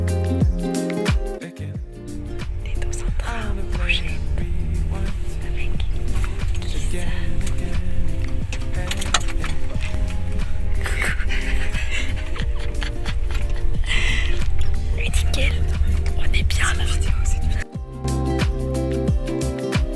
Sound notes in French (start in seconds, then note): 11.6 rire